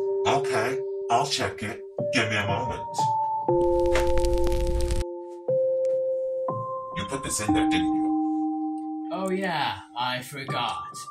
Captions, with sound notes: Okay, I'll check it, give me a moment *rustling* You put this in there, didn't you? Oh yeah, I forgot